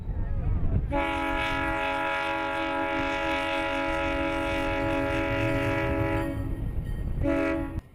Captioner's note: train whistle